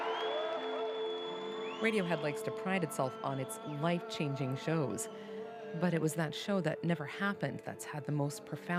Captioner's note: cheers and applause